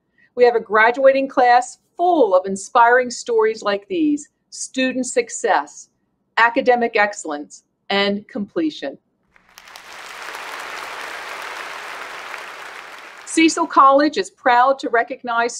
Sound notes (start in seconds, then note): 9.3 applause